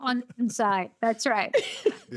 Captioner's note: laughter